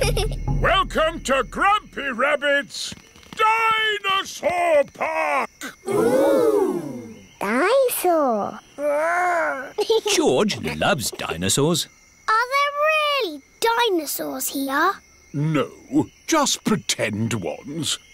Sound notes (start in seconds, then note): 8.7 giggles